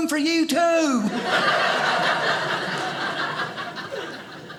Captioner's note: audience laughing